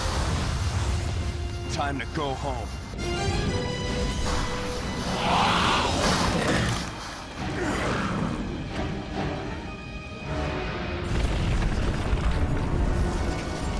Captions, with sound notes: Time to go home. [GROWLING]